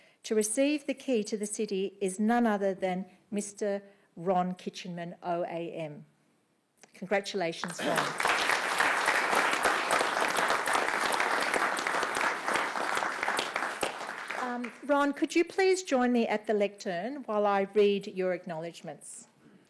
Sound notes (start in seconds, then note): 7.6 clapping